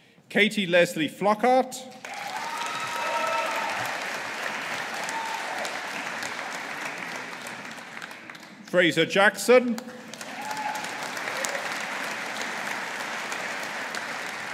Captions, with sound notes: Katie Lesley Flockhart. (AUDIENCE APPLAUDING) Fraser Jackson. (AUDIENCE APPLAUDING)